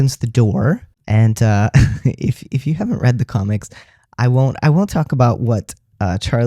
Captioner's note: laugh